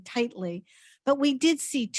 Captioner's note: none